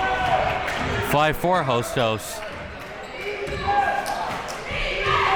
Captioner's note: chanting